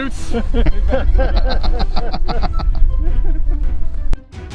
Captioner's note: laughing